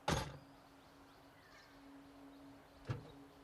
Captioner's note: birds chirping; gentle music